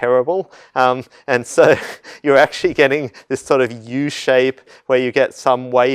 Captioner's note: laugh